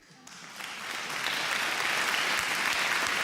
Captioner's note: applause